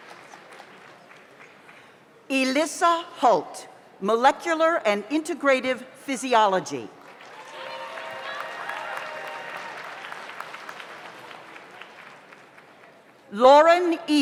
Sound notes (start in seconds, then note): 7.0 audience applauds; 7.2 audience cheers